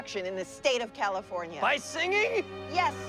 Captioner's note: laughs